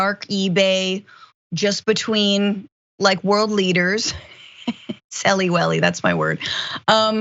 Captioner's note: laugh